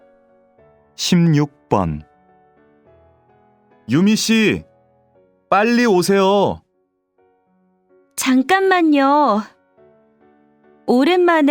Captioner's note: Korean audio